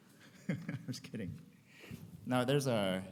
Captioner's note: laughs